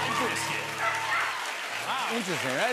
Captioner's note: dog barks